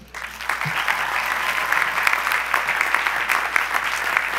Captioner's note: audience applause